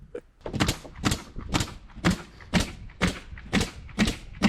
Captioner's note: chuckling; nail gun clicking